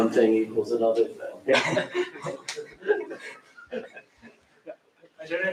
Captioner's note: laughter